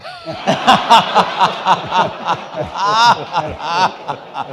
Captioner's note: all laughing